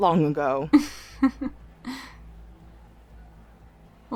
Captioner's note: chuckles